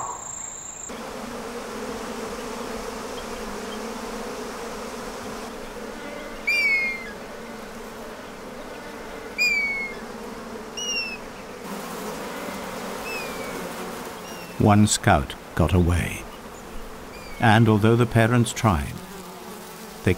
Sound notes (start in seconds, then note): 0.0 nature sounds; 0.9 bees buzzing; 6.4 bees buzzing, birds chirping